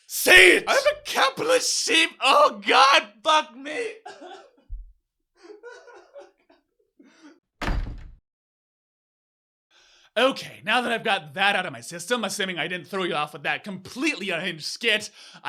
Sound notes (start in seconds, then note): 5.4 sob